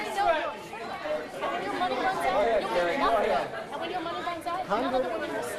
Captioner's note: chatter